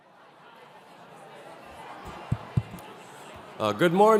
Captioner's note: group chattering